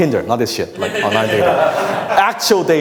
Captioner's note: audience laughs